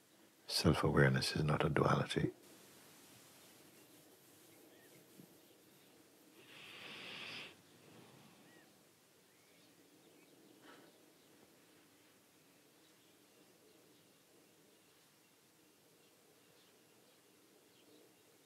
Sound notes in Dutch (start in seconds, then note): 6.1 stilte